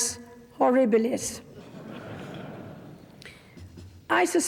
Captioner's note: audience laughs